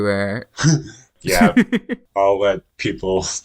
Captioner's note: laughs